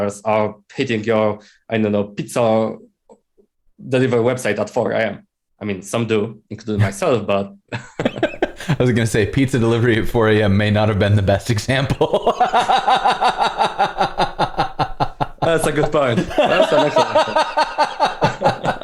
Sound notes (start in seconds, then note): 11.9 laughter